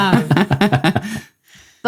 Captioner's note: both laughing